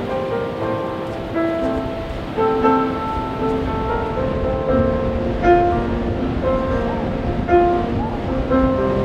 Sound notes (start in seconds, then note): 4.5 seal squeaking